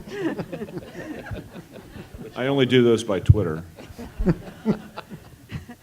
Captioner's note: laugh